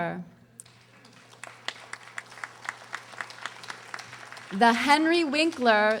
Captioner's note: audience applauding